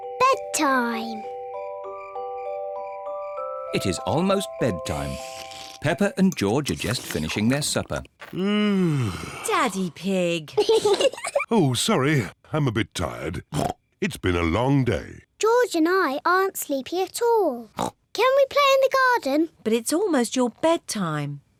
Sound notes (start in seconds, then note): 8.2 yawns; 10.5 kids giggle